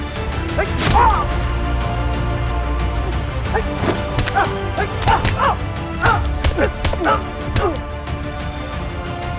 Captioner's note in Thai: เสียงการต่อสู้